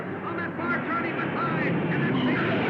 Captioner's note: cars revving; tires squealing